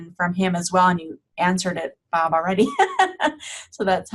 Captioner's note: laughing